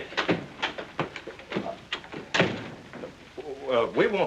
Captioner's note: door opens and closes